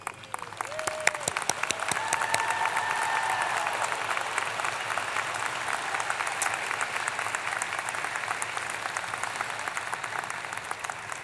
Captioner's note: applause